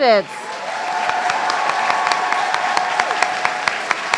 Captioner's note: everyone cheering